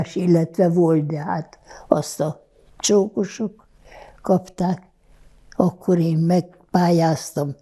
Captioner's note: none